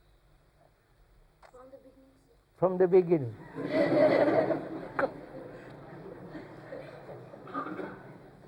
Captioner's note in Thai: หัวเราะ